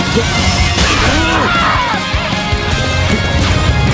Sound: fatal scream

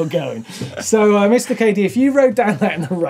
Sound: laughs

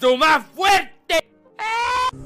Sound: scream of fear

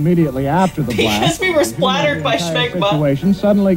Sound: laughing

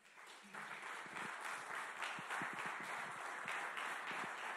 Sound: audience clapping

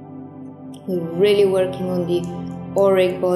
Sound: speaks foreign language

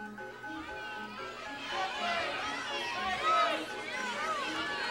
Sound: audience shouting

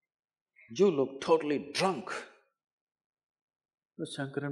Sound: none

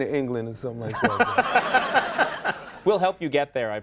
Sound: audience laughing

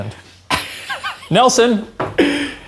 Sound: chuckling

